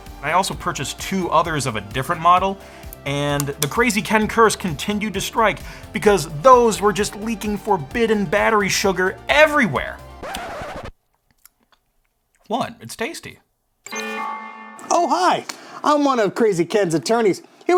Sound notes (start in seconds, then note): 10.2 record scratching; 13.8 buzzer